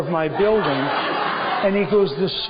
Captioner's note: laughter